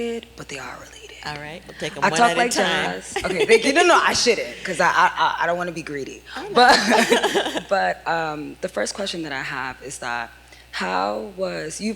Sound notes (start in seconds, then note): 6.5 laughter